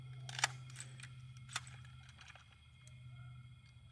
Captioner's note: clicking